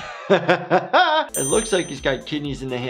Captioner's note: laughter; ding